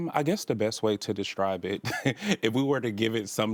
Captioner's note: laughs